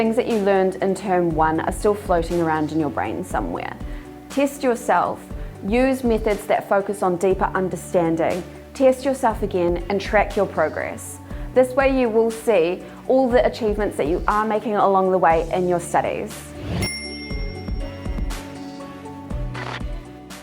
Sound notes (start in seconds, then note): 16.8 dinging; 17.8 upbeat music